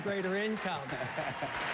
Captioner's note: applause